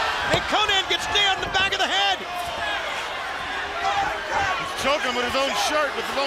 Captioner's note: crowd cheering